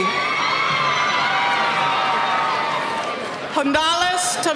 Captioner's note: cheering